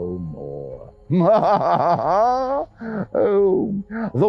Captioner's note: laughs